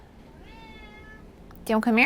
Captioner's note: meow!